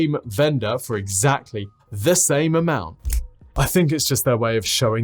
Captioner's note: snaps fingers